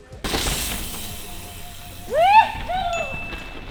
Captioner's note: wheels whizzing; celebrating